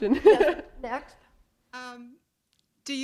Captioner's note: chuckle